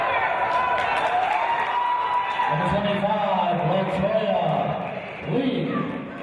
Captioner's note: cheers and applause